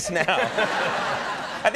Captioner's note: audience laughs